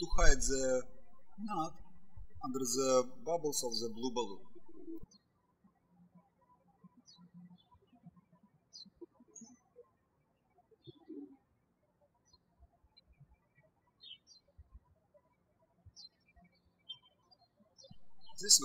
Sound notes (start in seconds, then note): 6.1 birds chirping